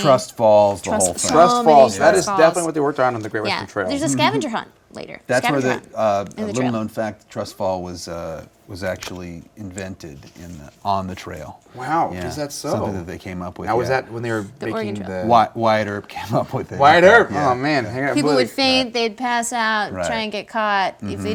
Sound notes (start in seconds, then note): 16.7 chuckles